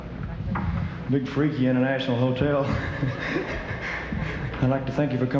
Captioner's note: laughing